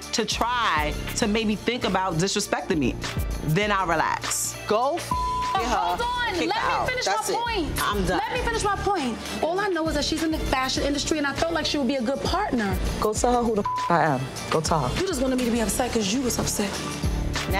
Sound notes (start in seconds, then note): 5.1 beep; 13.6 beep